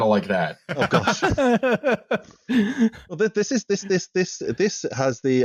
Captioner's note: laughing; laughs